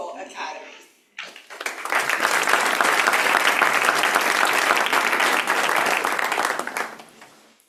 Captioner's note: applause